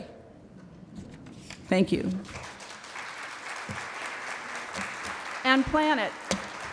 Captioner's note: applause